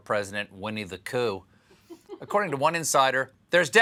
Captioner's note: laughter